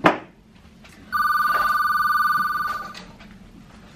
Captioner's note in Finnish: Puhelimen pirinää